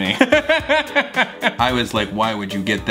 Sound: laughs

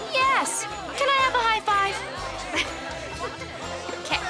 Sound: chuckles

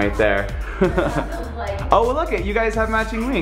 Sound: laughs

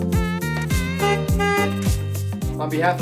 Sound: car honks

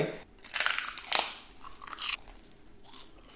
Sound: crunching; slurping

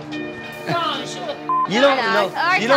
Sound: beep

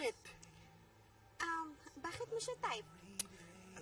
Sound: Rodel's tongue clicks

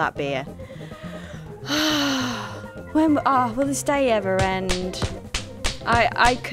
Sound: lets out a big sigh

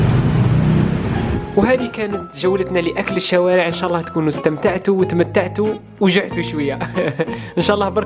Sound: giggles

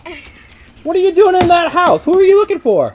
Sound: voiceover

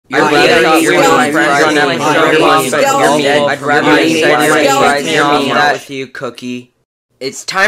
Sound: contestants arguing

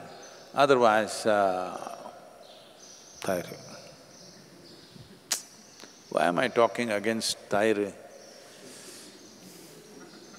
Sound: laughs

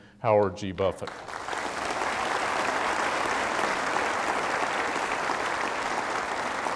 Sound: applause

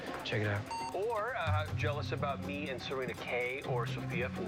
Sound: cell phone beeps

